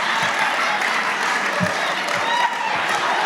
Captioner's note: audience laughing; audience applauding